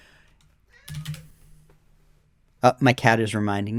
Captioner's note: meow!